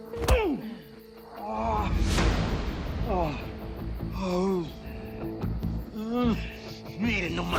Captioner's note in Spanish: Golpes; Quejidos